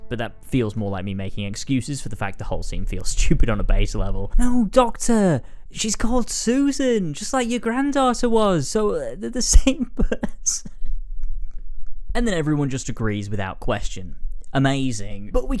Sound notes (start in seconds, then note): 11.6 laughs